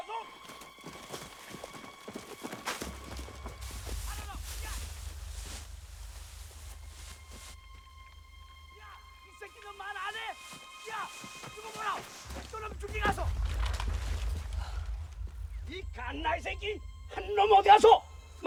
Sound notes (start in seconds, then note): 3.3 man Yelling In Korean; 9.1 continuous Yelling in Korean